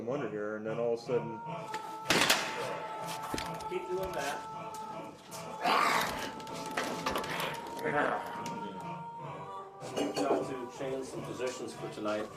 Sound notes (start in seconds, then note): 5.4 snarling